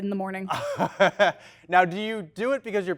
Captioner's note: laughs